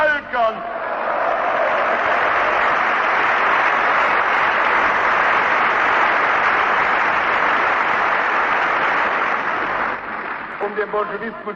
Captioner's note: applause